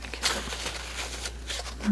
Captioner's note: scratching